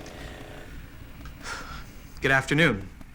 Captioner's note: sighs